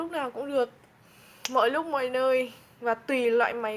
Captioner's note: snaps finger